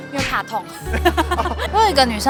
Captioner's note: laughs in pain aversion